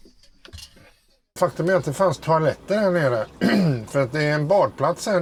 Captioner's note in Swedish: harklar sig